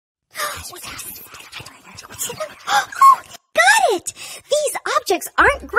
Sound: whispers

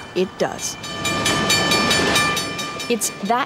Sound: train bell tolls

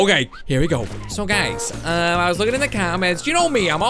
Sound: none

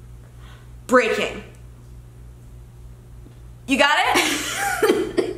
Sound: laughs

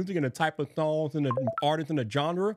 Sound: text chiming

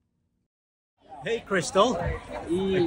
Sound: people talking

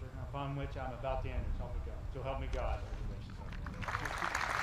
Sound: audience applauding

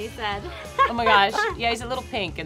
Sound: laughs

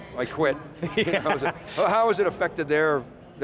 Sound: laughing

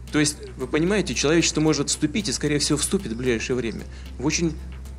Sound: Putin speaking Russian

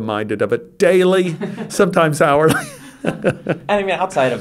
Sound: he laughs

